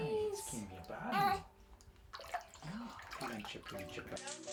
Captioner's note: soft crying